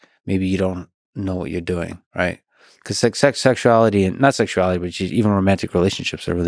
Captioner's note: none